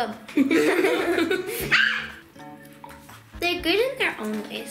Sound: giggles

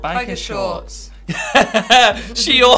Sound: Tan laughing

